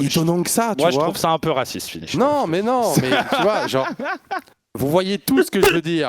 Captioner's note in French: rires